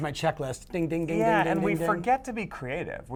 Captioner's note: imitates bell ringing